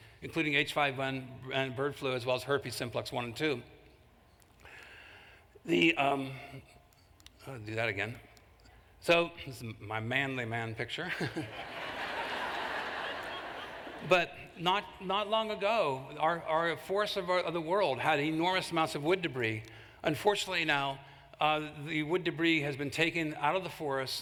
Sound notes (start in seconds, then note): 11.0 laughter